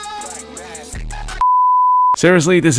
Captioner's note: beep